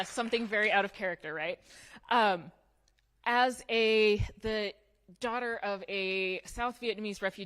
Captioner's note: applause